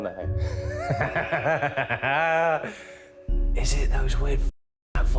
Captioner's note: Danny laughs